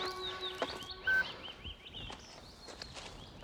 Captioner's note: beep